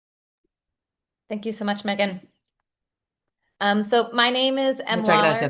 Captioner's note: hablando inglés